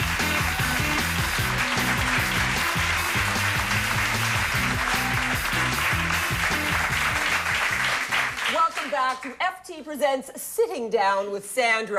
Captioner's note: applause